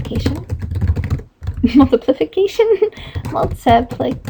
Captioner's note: laughing